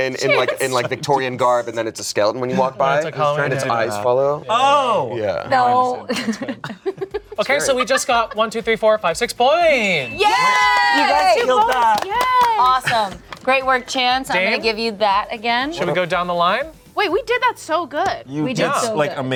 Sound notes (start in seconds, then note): 6.1 chuckling; 9.8 all cheer